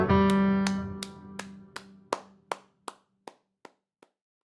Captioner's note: clapping